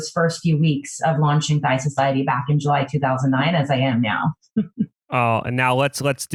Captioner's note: laughs